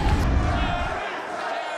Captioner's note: crowd